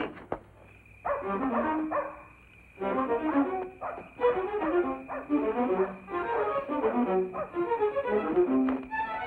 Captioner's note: suspenseful music; dogs barking; suspenseful dramatic music